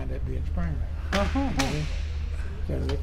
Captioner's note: chuckling